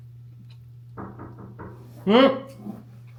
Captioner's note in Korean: 들려오는 노크 소리